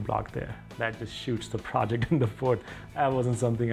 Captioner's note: chuckles